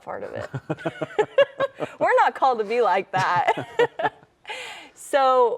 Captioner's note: laughs